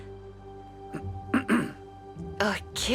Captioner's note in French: Alyx se racle la gorge